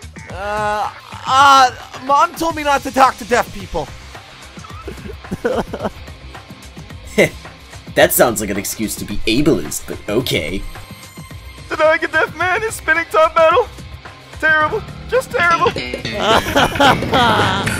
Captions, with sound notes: Uh.. Ah.. Mom told me not to talk to deaf people. (Randomly crying) Heh. That sounds like an excuse to be ableist but okay. Denying a deaf man his spinning top battle? Terrible. Just terrible. (Laughing. Or crying. Not sure which.)